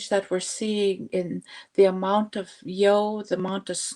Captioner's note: speaking Indigenous language